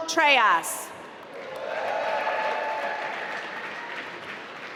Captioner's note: applause